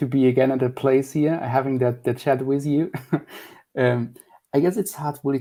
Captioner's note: chuckling